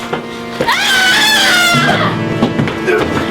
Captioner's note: woman screaming